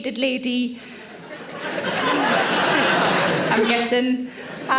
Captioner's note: audience laughing